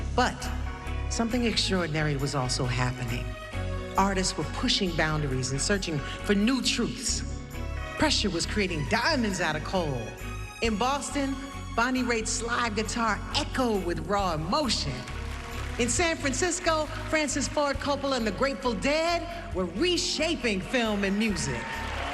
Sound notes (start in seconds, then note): 14.9 applause